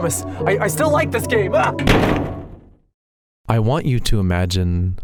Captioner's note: bonk